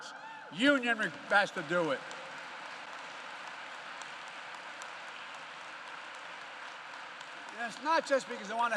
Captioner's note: applause